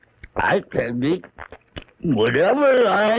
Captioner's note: mâchant la pomme